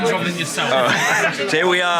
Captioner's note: laughs